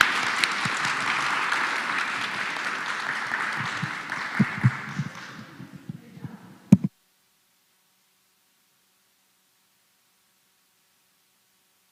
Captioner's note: applause